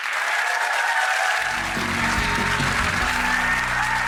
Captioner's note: audience applause